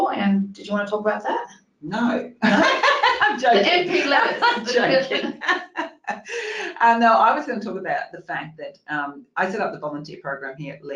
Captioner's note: cracks up